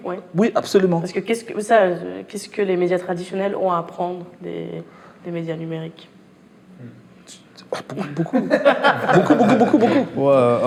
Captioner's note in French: rires